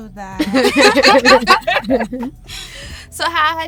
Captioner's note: all laughing